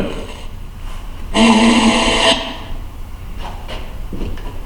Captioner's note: static voices